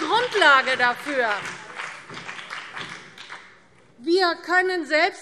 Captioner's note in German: Beifall BÜNDNIS 90/DIE GRÜNEN und vereinzelt CDU